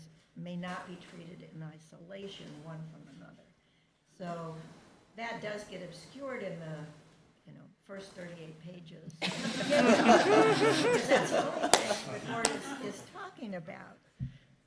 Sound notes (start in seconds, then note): 9.2 laughter